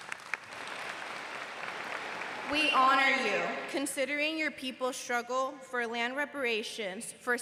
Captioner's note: applause